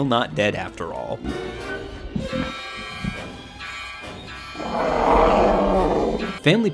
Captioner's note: ethereal music; Harry roaring